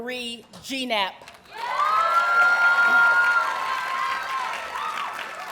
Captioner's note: audience cheers and applauds